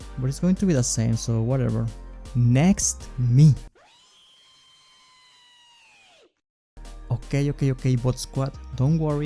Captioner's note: reeee